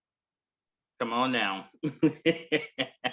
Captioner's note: chuckling